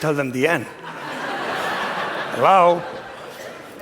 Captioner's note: laughter